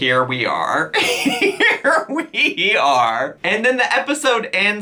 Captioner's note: laughing